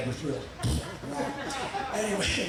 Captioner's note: audience laughing